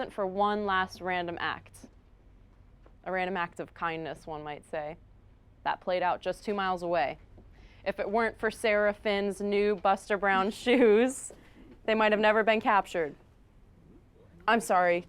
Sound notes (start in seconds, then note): none